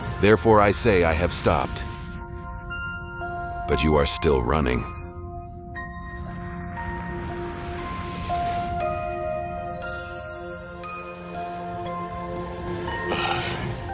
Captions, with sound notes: Therefore I say I have stopped. But you are still running." [sigh]